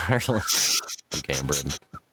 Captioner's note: laughing